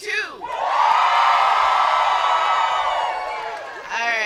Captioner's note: yelling